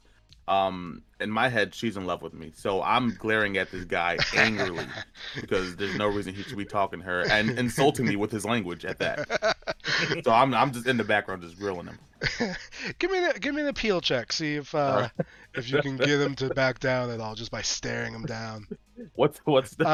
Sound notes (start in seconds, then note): 5.0 laughs; 10.0 laughing